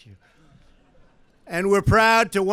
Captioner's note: laughter